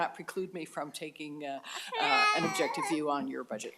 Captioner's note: laugh